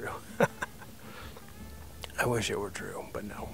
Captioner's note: laughing